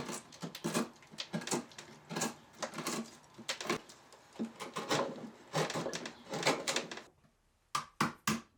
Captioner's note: wood scraping; hammer knocking